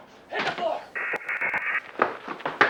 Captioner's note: buzzing